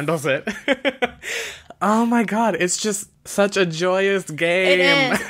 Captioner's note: laughs